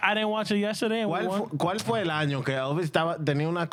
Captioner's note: speaking In Foreign Language